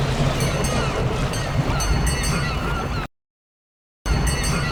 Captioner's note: water splashing; boat bell ringing; seagulls calling